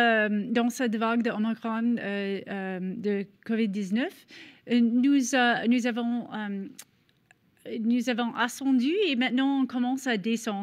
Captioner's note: continuing in French